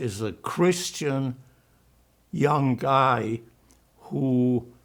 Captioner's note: german